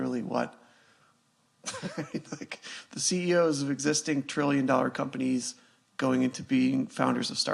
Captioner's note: laughs